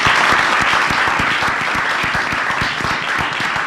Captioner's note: applause